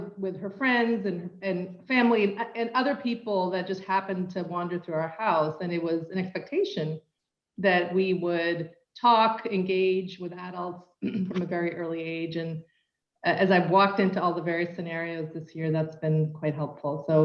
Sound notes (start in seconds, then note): 11.0 cough